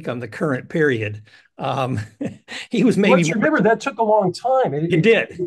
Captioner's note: laugh